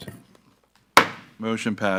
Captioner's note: gavel thuds